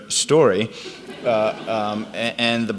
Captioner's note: audience laughs